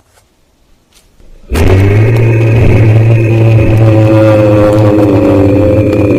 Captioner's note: Yeti Call